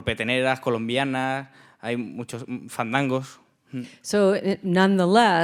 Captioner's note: speaking in Spanish